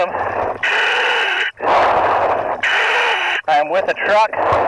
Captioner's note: breathing heavily